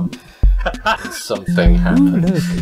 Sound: laughs

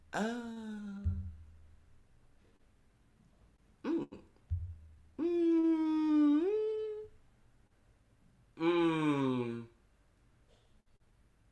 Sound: JAZZ mumbles and hums to herself

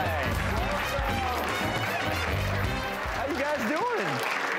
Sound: audience applauds

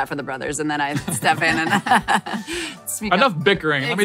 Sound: laughing

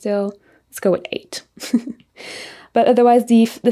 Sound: giggles

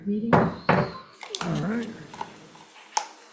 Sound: gavel banging

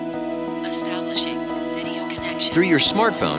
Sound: artificial Voice

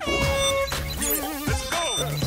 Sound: horn blows; upbeat music

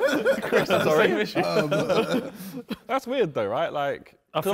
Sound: men laughing

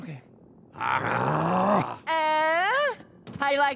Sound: growling

